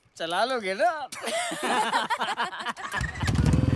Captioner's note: Laughs